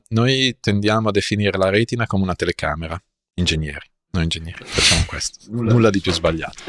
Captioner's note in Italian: sbuffare